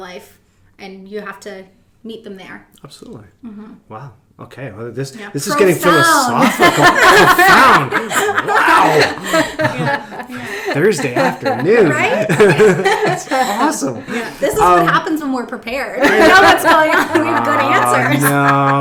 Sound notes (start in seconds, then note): 8.8 laughing